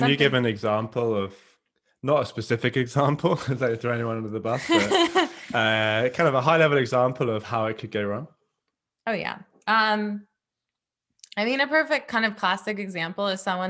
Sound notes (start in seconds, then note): 3.2 chuckles; 4.5 laughs